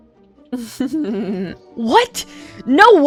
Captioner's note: evil laugh